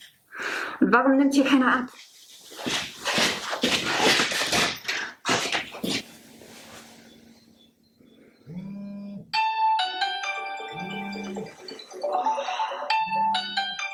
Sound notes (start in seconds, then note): 9.4 melodic alarm clock is ringing